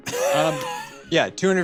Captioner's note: laughs